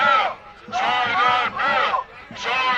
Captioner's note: chanting